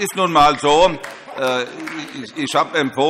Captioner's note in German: Allgemeine Heiterkeit